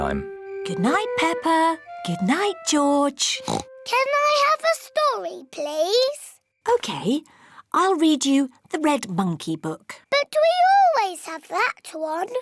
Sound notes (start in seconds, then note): 3.4 oinks